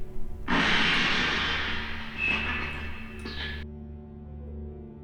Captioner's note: clattering noises